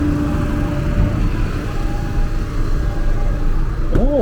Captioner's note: engine roaring